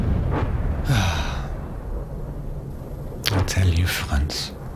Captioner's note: sighing